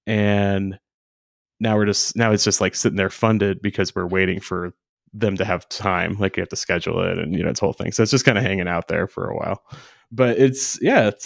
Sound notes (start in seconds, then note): none